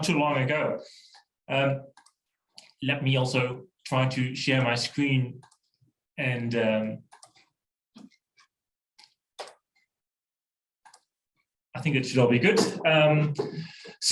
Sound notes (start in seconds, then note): 1.9 clicks; 7.1 clicks; 10.8 clicks; 10.8 keyboard keystrokes